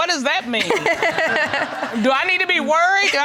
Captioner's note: laughing